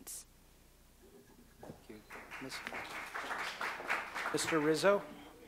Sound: applause

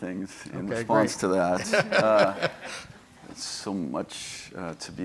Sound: laughing

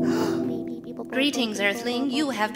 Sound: space void humming; gasp; alien background noises

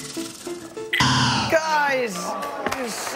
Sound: buzzer

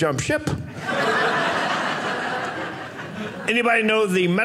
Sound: audience laughing

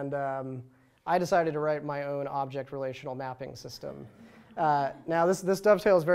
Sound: laughter

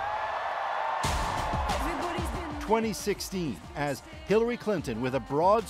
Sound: cheers and Applause

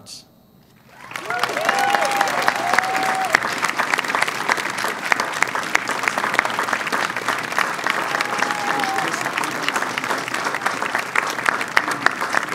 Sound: applause and cheering

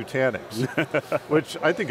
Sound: laughs

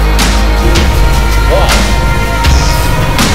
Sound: device powering up; plasma beam fires

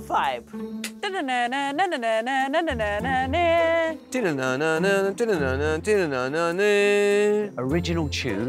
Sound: hums original tune

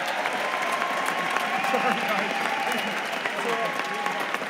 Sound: cheers and applause

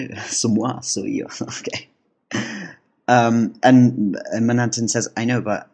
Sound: chuckle

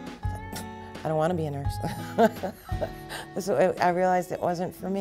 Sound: laughing

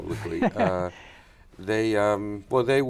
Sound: laughs

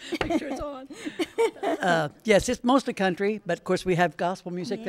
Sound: chuckling

